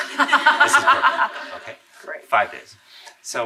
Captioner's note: laughing